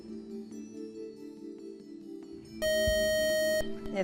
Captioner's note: buzzer